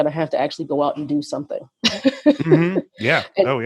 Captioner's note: laughs